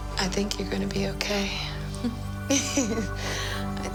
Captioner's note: chuckling